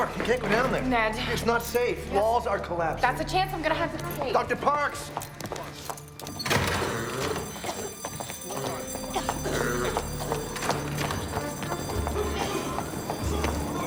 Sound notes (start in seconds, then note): 7.6 alarm; 8.6 fire smoke alarm; 10.5 alarm